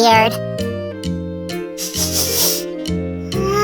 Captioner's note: sniffing